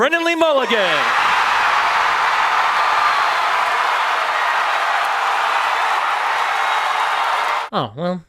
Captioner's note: cheering